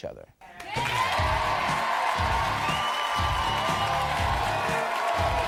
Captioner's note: audience cheering